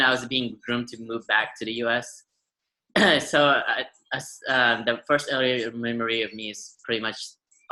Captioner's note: clears throat